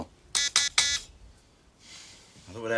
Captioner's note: beeping sound